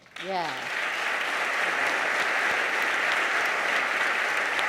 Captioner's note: audience applauds